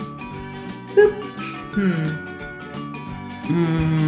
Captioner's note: sighing